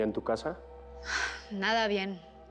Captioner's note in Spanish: Suspiros